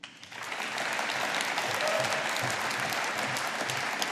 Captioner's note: audience applauding